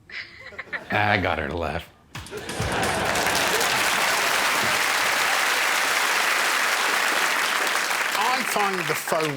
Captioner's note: laughs